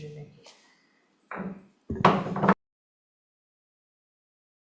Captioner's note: gavel thumps